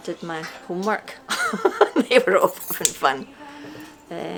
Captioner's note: laughs